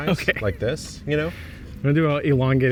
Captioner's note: laughing